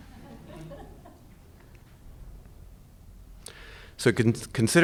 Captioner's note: audience laughing